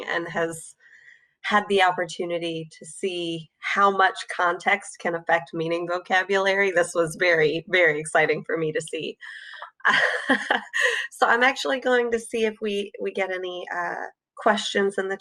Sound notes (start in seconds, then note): 9.7 laughs